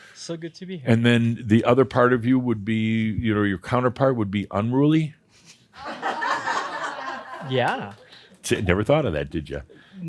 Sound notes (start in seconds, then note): 5.7 laughter at his pun